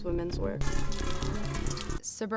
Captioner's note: water trickling